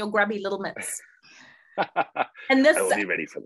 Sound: laughing

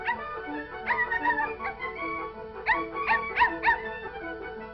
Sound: barking

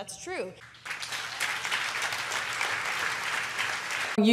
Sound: applause

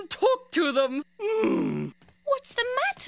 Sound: he groans

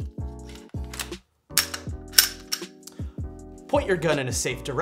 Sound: gun clicking

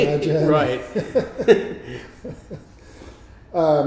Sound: laughes; laughs

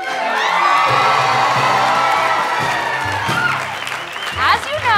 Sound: cheering

